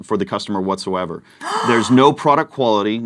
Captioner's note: gasp